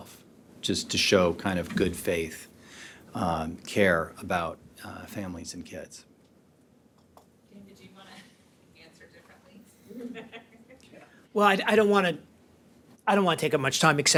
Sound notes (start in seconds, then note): 9.8 laughs